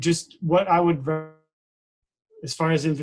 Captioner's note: distorted speaking